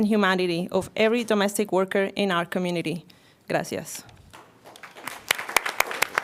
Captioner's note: applause